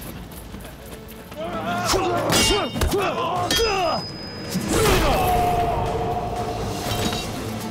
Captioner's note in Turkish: Dövüş sesleri